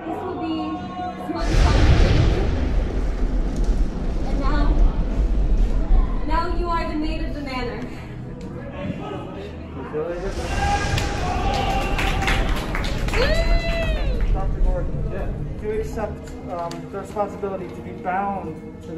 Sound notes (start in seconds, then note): 1.4 thunder clap; 10.9 applause